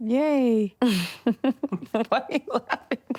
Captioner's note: nervous laughter